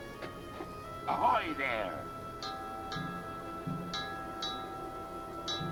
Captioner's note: bell ringing